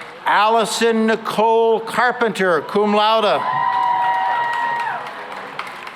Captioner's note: cheering and applause